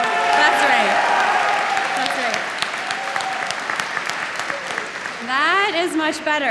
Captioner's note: loud cheering